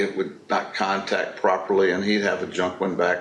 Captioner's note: none